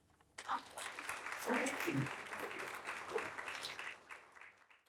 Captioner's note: audience clapping